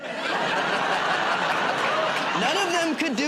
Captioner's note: laughter